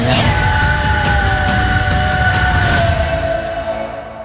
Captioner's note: Screaming